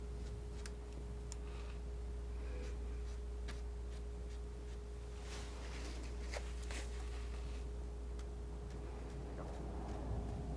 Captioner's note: scratching